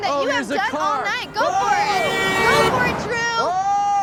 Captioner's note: horn honks